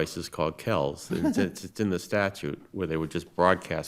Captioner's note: laughing